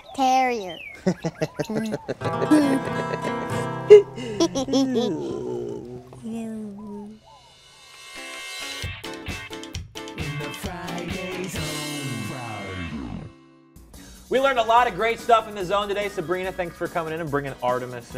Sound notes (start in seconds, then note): 5.8 laughter